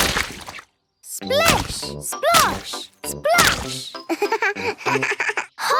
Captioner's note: laugh